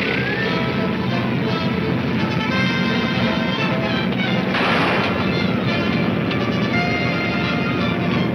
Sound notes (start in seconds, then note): 2.7 gunshot banging